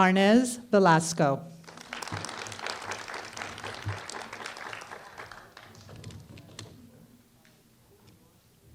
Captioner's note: applause